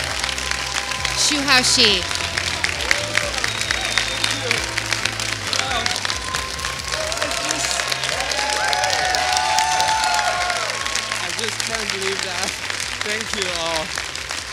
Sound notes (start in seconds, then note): 0.1 applause